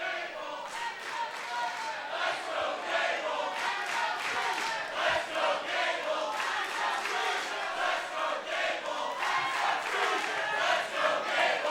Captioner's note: fans chanting